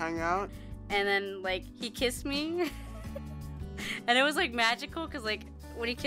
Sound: giggles

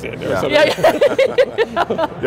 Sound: all laughing

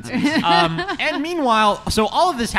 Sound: laughs

